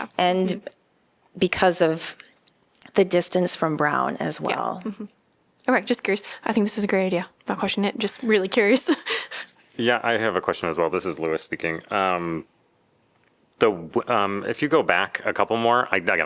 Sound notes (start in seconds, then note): 8.8 laughter